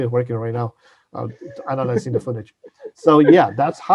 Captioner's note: laughs